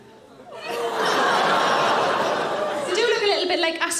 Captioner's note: audience laughing; audience exclaiming